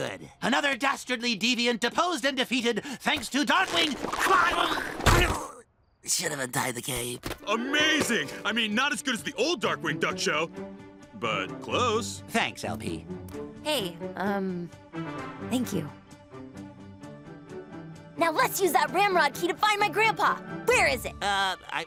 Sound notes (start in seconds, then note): 5.3 yelps and croaks